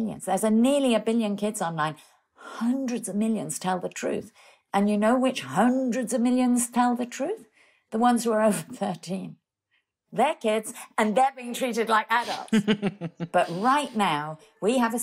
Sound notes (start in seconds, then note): 12.3 laughing